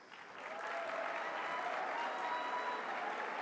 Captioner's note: applause